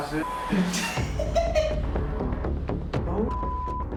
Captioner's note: laughs